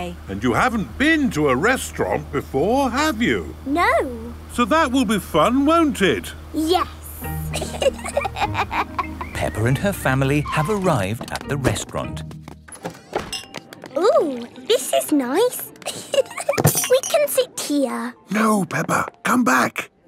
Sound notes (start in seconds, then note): 7.4 both laughing; 12.9 lounge music